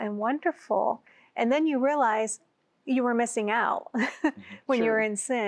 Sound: giggle

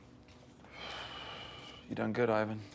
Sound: sighs

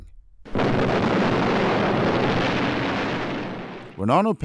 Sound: explosion

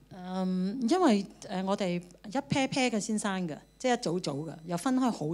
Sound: Cantonese

